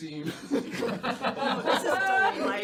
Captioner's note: laughter